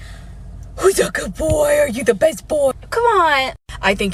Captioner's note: deep breath